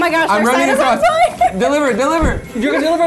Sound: laughs

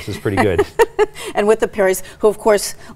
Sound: laughing

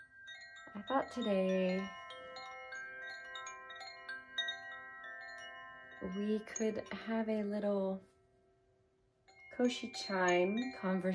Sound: chimes

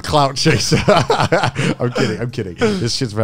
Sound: everyone laughs

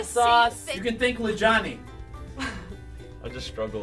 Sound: laughter

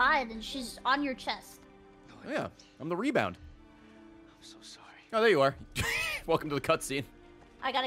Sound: laughs

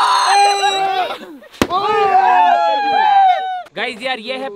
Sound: shout with excitement

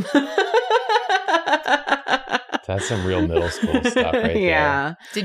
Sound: laughs

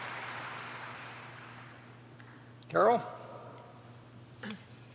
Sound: applause

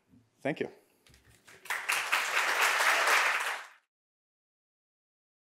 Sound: audience applauding

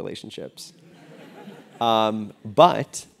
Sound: laugh

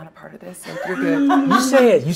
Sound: laughing

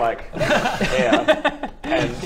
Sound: laughs

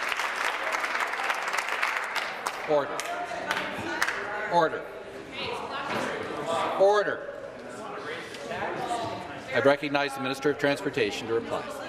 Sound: applause

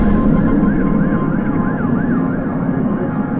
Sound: whoosh; siren blares

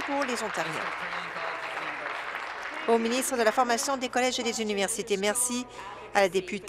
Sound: applause

